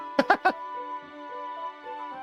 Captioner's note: laughs